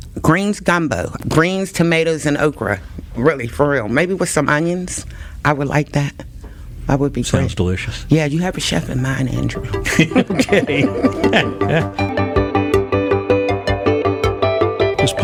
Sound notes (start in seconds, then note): 9.2 laughs; 12.9 gentle electronic music